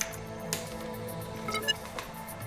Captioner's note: USB snapping in; access chime